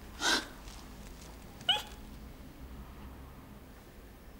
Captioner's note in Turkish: hıçkırıyor